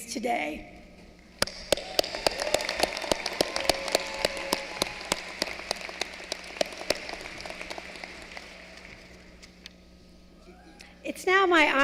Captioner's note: applause